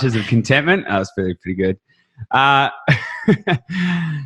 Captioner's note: laughs